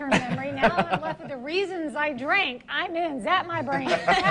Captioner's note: laughing